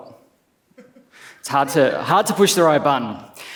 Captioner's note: laughs